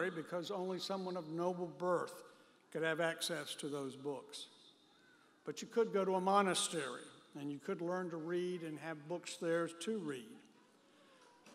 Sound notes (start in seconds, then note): none